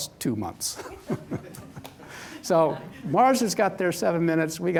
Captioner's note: chuckles